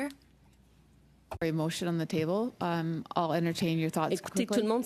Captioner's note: speaking French